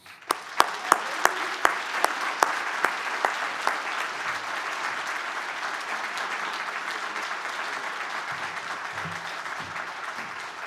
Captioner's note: applause